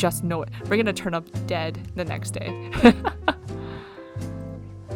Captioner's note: laughs